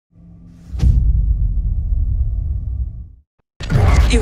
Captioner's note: dramatic sound